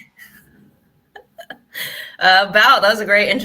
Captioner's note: giggles